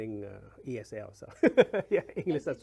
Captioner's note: laughs